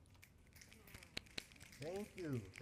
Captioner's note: applause